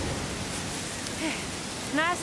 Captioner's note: wind whistling; sighs